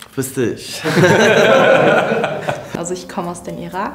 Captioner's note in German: lachen